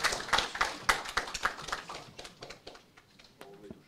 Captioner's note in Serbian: аплауз